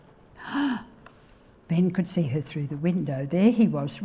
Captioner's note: gasps